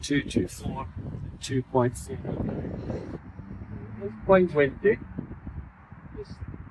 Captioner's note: extreme wind noise